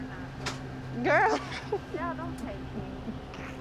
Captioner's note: laughing